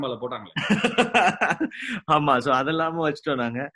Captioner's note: laughs